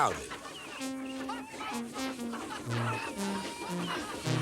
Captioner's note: all laughing